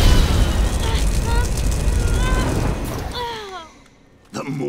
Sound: grunting

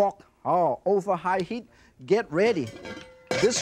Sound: hands tap; wok rattles

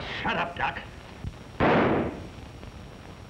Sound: gunshots

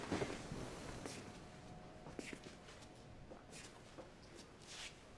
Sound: footsteps

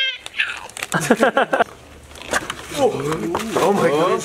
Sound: laughing

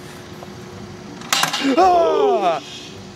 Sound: dolly clatters; concerned gasps

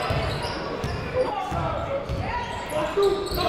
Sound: shouting

